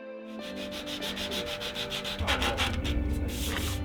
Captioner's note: paper sanding